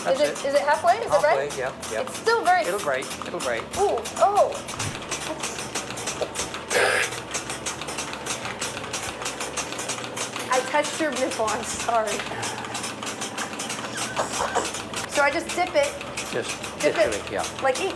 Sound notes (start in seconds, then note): 6.6 spits